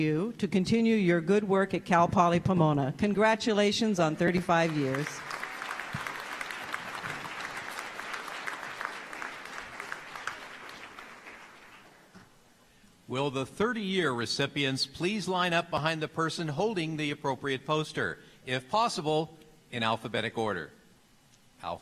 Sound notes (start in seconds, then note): 7.0 applause